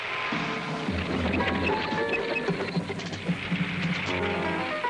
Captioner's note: fire crackling; tank treads rattling; tense suspenseful music continues